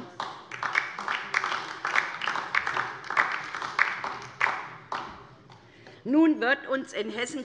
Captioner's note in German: Beifall DIE LINKE